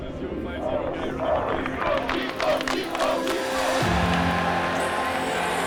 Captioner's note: crowd chanting